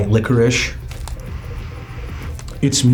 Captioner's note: inhales